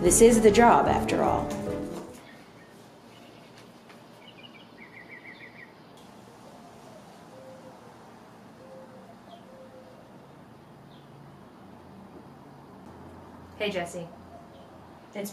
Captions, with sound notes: This is the job after all. [Birds chirp] Hey Jesse.